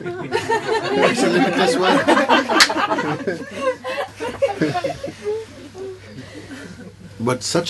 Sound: laughter

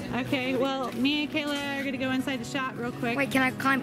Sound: voiceover

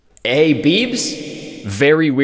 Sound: voice effect

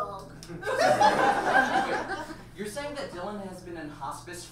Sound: audience laughs

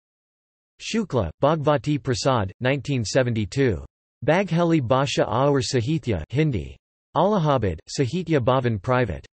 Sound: Hindi

